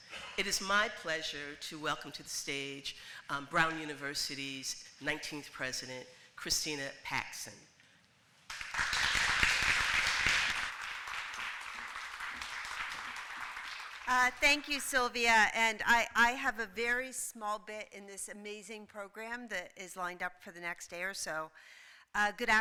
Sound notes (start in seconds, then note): 8.4 applause